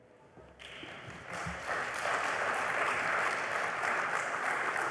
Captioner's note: applause